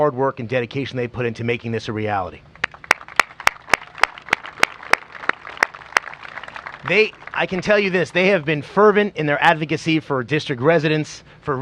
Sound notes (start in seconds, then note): 4.6 applause